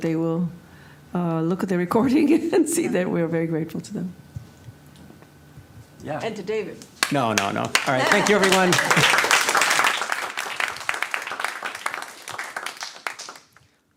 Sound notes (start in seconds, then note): 9.0 applause